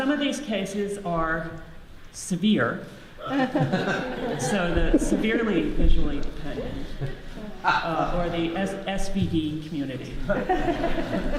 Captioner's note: audience laughs